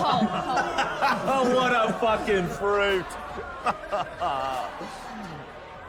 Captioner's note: laughs; crowd jeers